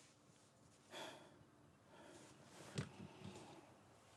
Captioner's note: sighs